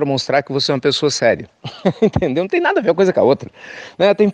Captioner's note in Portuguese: risos